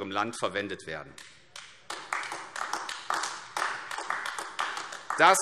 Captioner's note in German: Beifall AfD